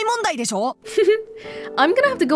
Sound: chuckles

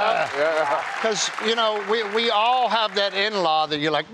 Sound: applause

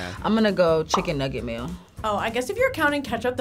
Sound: bubble popping

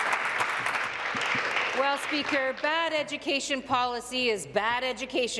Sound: applause

